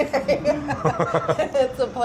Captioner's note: laughing